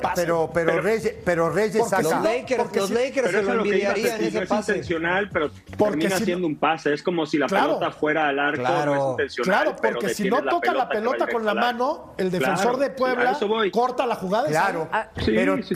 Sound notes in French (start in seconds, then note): 8.5 todos hablando